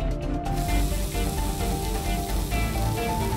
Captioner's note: frying in oil